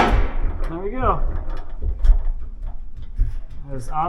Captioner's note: wood thuds; cyclone thudding